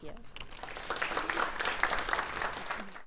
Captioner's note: applause